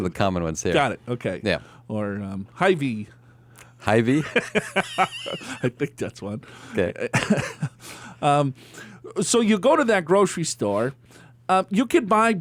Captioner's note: laughs